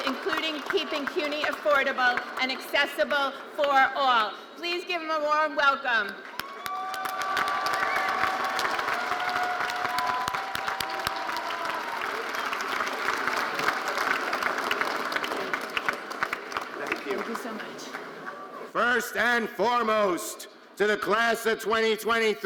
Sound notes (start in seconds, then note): 6.7 audience cheering and applauding